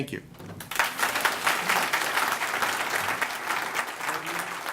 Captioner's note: applause